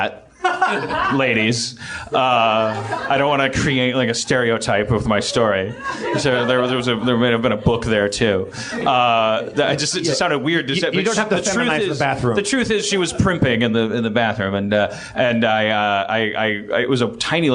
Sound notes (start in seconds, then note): 0.4 one hearty chuckle; 5.8 stammers